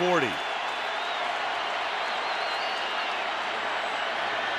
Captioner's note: cheering